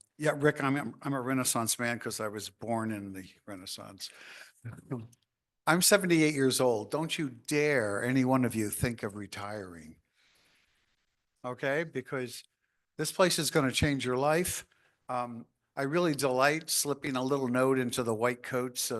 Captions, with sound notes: Yeah, Rick, I'm a renaissance man 'cause I was born in the Renaissance. (chuckles) I'm 78 years old. Don't you dare any one of you think of retiring, okay? Because this place is gonna change your life. I really delight slipping a little note into the white coats